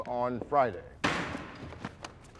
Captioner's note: gavel bangs